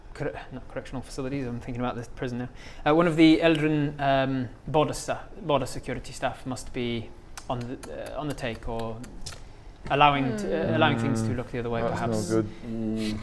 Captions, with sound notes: co- not correctional facilities, I'm thinking about the prison now one of the Eldrin border staff border security staff must be on the...on the take or *tut tut* allowing things to look the other way perhaps That's not good